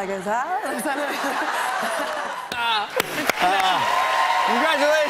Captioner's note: cheers and applause